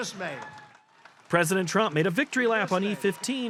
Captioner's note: applause